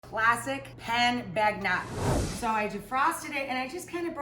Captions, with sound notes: Classic pan bagnat. (whooshing) So I defrosted it, and I just kinda